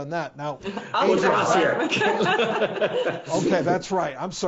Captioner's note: laughing